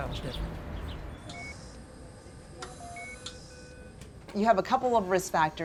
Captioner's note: machine beeping